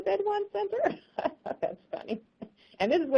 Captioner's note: laughs